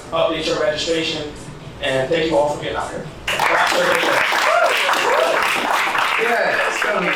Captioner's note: applause